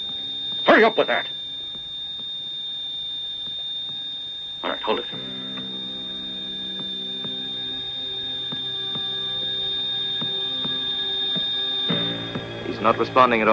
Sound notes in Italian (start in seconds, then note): 2.3 segnale acustico fisso; 8.0 segnale acustico fisso